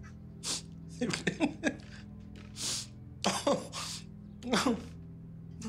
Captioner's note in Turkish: Gülüyor